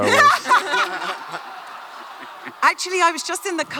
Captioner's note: Christie et al laugh